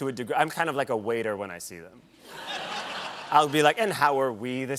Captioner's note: laughter